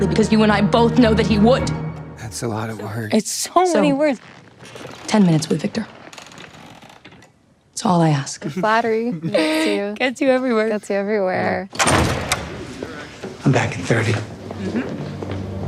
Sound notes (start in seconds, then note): 11.7 door clicks